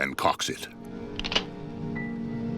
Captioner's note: gun cocks